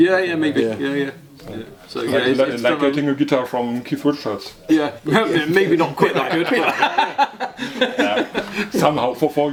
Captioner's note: laughing